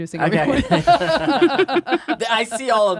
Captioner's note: both laughing